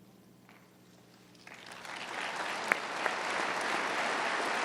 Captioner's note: applause